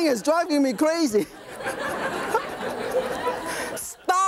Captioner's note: audience laughing; laughs